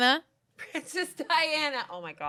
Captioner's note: laughs